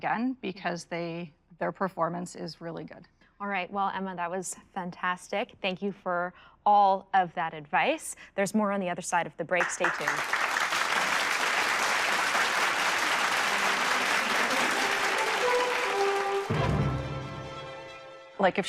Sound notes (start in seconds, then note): 9.6 applause; 14.5 dramatic music